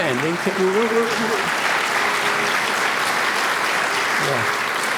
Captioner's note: applause